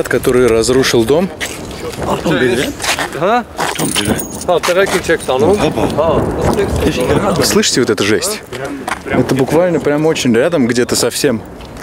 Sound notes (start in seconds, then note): 2.2 explosions; 2.2 speaking Armenian